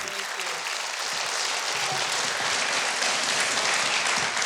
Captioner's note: audience applauding